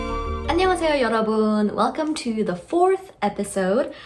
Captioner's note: speaking in Korean language